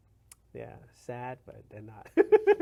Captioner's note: laughs